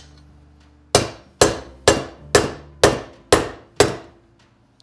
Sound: hammer tapping

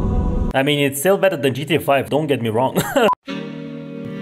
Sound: chuckles

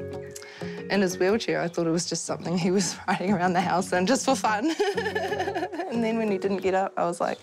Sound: laughs

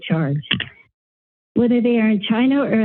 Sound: mic thump

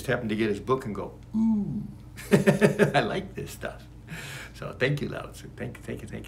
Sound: laughs

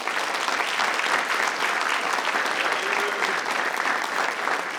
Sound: audience applauding

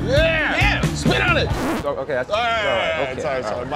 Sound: record scratch

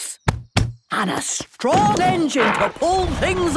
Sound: thumping

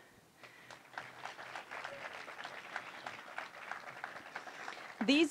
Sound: applause

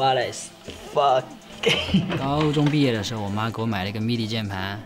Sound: laughing

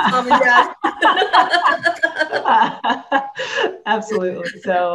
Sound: laughing

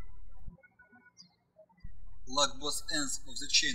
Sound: birds chirping

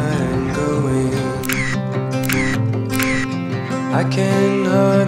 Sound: camera clicks

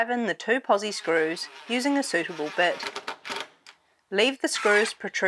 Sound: drill

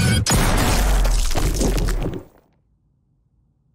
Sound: shooting; thudding

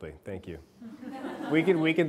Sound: class laughing

